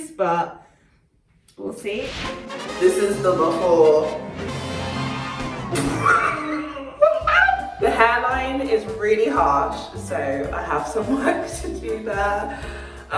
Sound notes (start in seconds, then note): 2.3 upbeat horn music; 4.5 coughs laughing